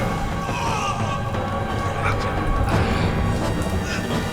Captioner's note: slaves grunting